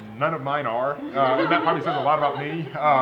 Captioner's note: laughter